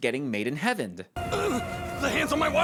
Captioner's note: confused grunt